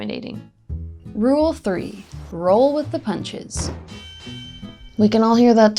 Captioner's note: boxing bell ringing